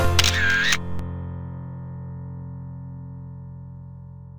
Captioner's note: laughing; camera shutter snapping